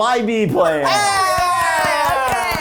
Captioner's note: cheering